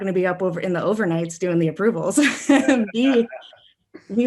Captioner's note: laughs